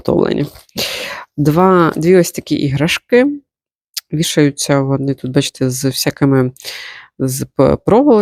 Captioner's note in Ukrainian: сопіння